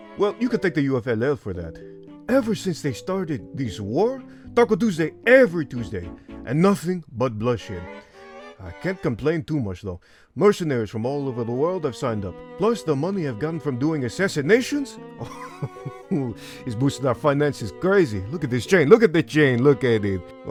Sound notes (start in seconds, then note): 8.0 inhales; 10.0 inhales; 15.2 chuckles